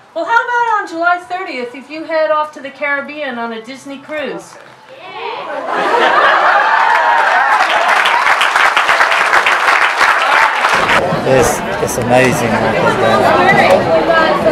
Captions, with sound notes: How about on July 30th you head off to the Caribbean on a Disney cruise? Yeah!! [applause] It's amazing what they've done.